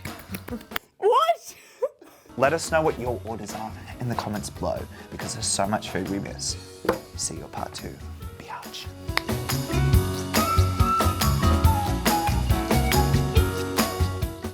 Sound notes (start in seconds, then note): 0.0 claps; 1.7 laughs; 8.8 upbeat music plays; 9.4 clicks tongue